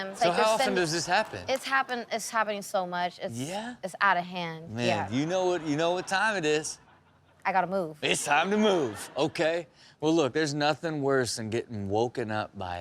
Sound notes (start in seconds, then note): 8.2 audience laughs